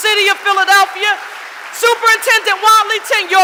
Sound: audience applauding

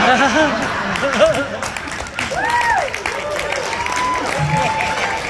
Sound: laughter and Applause

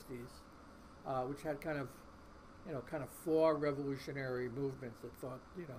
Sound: voice muffled

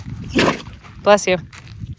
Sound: Camper sneezes

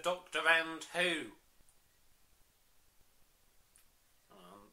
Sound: awkward silence

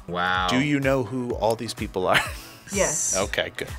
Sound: laughs

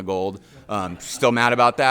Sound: audience laughing

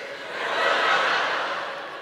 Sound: laughter

